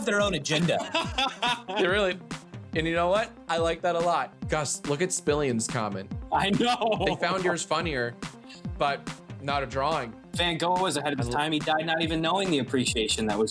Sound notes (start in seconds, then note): 0.1 laughing; 6.3 laughing